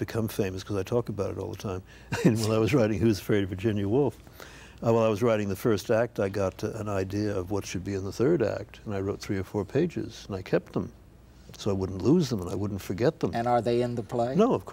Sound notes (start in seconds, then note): 2.1 chuckles